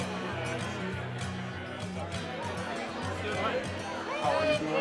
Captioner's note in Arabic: الناس يتحادثون